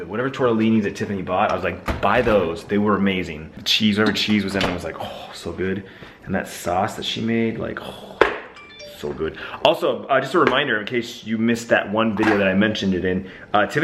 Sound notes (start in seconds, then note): 8.5 sighs